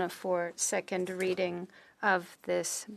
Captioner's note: speaking French